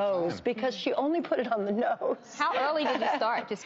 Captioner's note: laughs